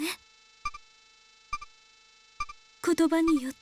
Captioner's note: silence